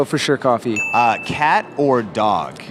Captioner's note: bell dings